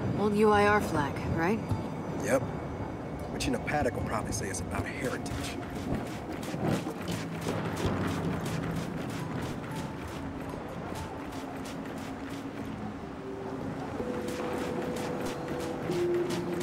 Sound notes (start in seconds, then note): 5.1 footsteps; 14.0 footsteps